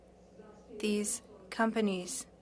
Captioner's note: speaking French